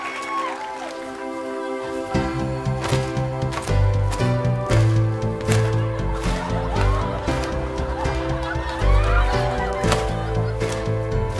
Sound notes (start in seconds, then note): 2.4 ribbon snapping on beat